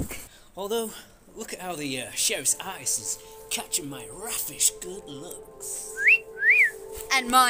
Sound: wistful music; wolf whistle

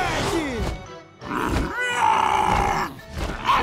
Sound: growling

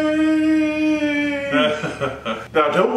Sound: laughs

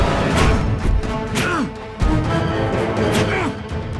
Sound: Kyle grunts

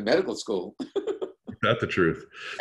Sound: laughs

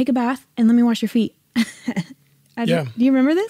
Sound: laughs

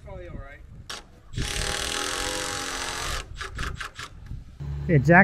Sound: machine drilling

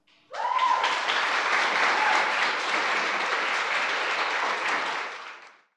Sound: audience applauds and cheers

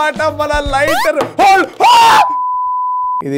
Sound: screams

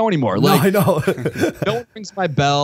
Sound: chuckle

